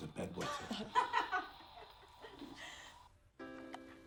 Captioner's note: laughing; slow paced music